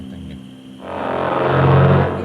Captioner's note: growling